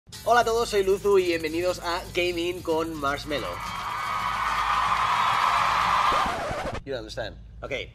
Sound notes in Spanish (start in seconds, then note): 3.4 Aplausos Y Gritos